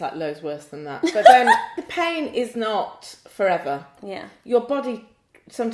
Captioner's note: laughs